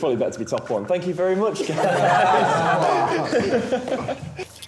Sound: laughing

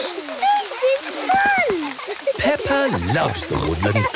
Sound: laughter

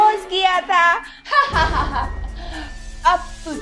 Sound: laughing

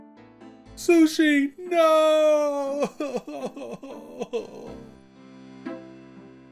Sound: starts sobbing

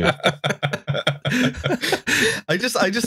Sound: laughter

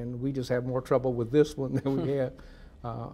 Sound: laughs

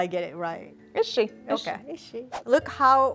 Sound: speaking Amharic

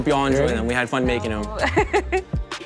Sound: laughing; hip hop music

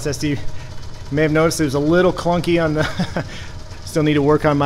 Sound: chuckles

